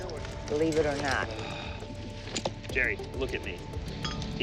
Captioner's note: sighs